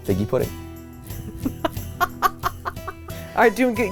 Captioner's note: laughs